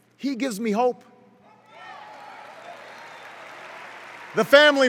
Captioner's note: cheers